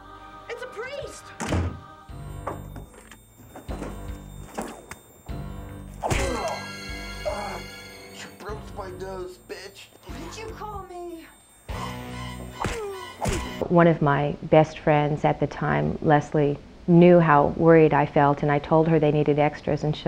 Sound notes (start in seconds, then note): 6.0 smack; 11.6 creepy music playing